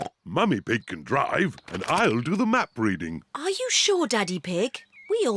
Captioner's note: snorts